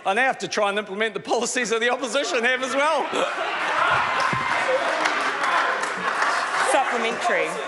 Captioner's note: laughter